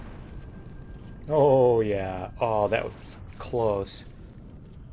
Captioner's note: turrets firing